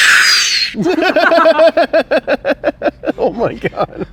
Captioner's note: laughing